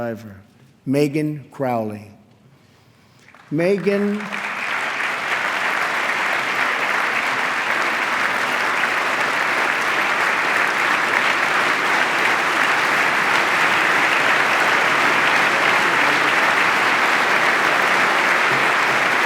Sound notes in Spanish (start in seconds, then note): 4.8 aplauso